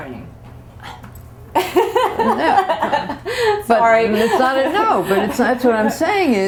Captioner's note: laughter